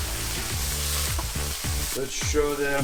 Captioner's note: food sizzling